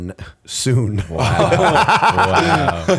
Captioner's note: laughter